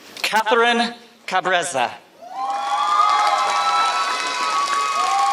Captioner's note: applause